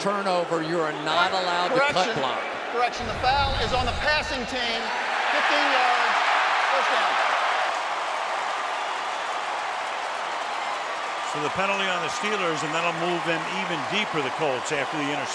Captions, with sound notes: After a turnover, you are not allowed to cut block. Correction, the foul is on the passing team, 15 yards, first down. [crowd cheering] So the penalty on the Steelers. And that'll move them even deeper the Colts